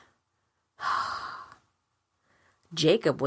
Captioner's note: sigh